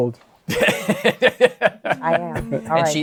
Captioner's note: laughs